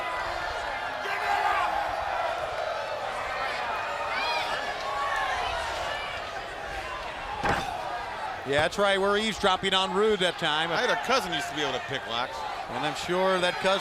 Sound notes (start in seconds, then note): 2.5 crowd chatter